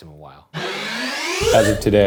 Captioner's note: air whirring